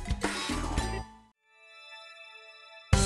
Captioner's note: pause